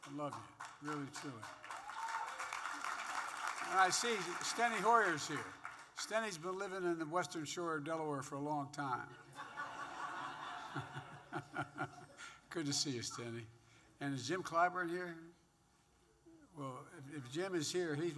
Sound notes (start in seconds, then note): 1.9 applause; 9.2 laughter